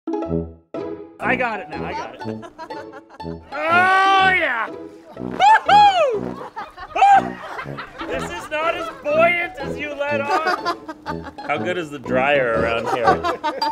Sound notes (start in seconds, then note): 2.1 laughter; 3.4 yells; 6.1 laughter; 12.8 laughter